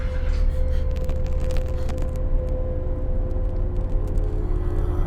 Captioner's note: flame crackling